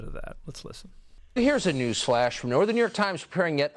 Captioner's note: soundbite of tv show, "tucker carlson tonight"